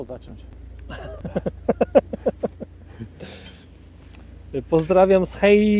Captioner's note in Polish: śmiech